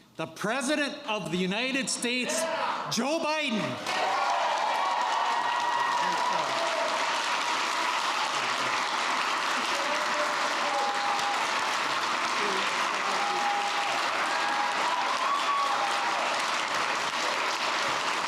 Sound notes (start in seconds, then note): 3.7 applause